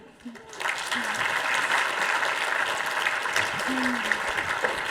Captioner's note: audience applauding